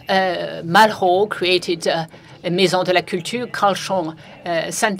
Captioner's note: french